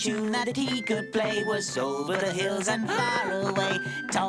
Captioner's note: Pigling gasps